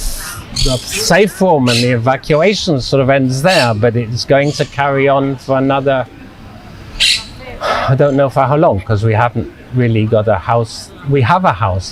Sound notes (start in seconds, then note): 7.6 sighing